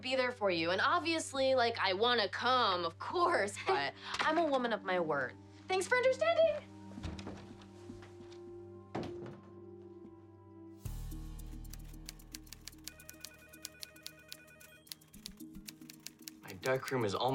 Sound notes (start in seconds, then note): 10.6 phone ringing; 11.6 typewriter clicking